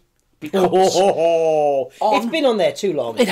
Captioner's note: laughing